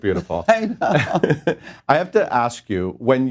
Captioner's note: laughs; laughing